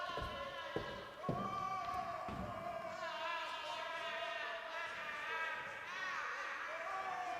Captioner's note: background bedlam of the insane asylum